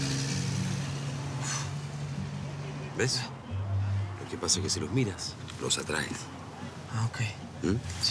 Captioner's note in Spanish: exhala